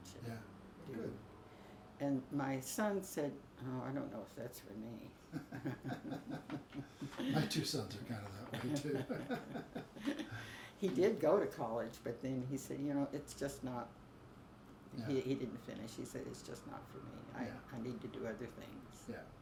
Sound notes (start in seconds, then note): 5.3 both laugh; 8.4 laughs